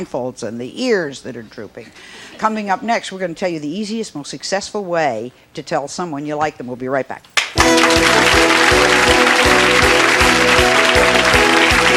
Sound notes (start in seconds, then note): 7.4 audience clapping; 7.5 holiday music